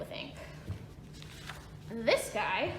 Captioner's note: rustling